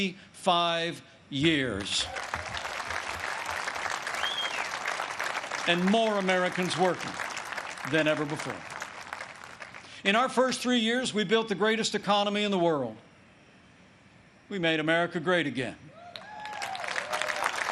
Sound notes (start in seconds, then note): 4.1 applause